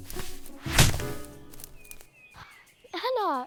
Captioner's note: branch thudding